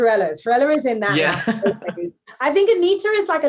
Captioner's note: laughing